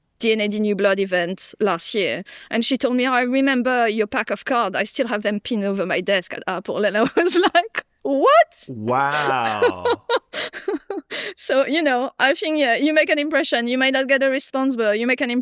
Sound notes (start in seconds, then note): 8.7 laughs; 8.7 chuckles